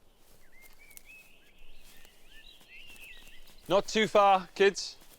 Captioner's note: birds chirping